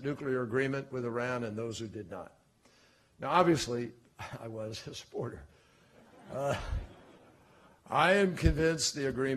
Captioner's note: laughter